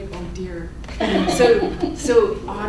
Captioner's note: laughing